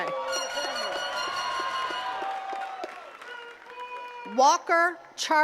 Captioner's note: attendees cheering and clapping